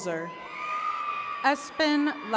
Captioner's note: attendees cheering